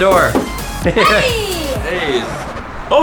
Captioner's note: laughs